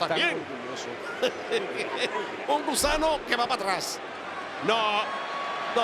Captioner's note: laugh